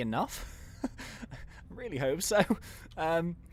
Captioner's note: laughs